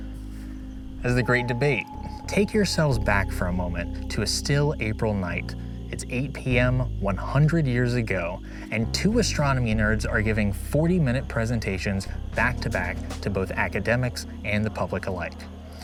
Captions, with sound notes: [ethereal chirp] as The Great Debate. Take yourselves back for a moment to a still April night. → It's 8 PM, 100 years ago, and two astronomy nerds are giving 40-minute presentations back-to-back to both academics and the public alike.